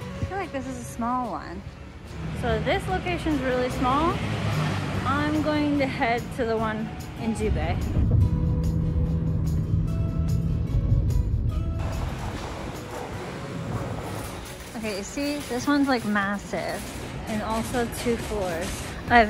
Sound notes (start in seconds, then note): 6.6 foreign language; 8.8 soft guitar playing